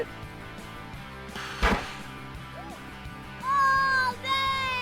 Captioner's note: whoosh